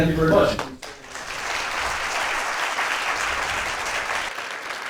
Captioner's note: applause